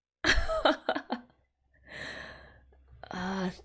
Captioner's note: laughs